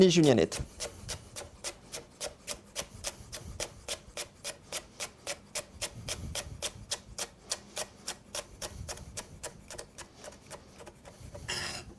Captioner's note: cutting sounds